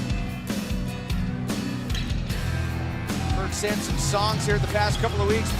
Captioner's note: crowd cheering